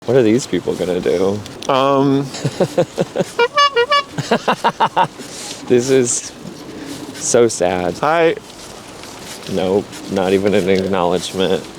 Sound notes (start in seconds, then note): 2.3 laughs; 3.3 honks horn; 4.3 laughs